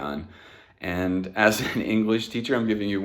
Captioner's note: laughs